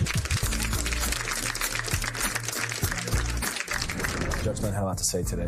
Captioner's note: applause